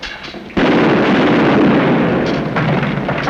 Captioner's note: gunshot